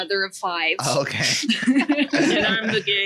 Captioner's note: laughs